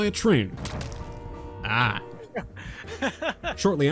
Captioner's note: hahahaha